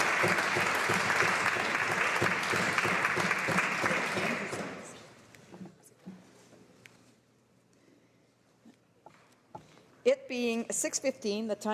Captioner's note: some Applause